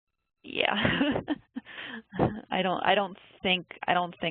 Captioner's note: laughs